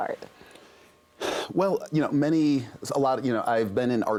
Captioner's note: exhales